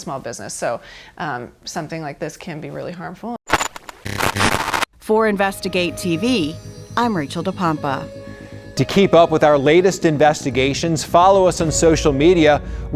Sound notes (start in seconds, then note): 3.4 static crackling